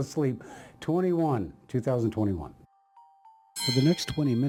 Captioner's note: bell ringing